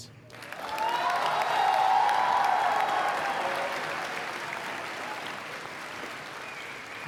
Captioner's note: applause